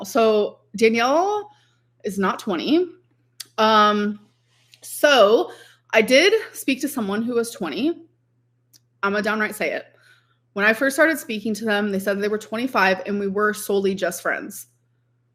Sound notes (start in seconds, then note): none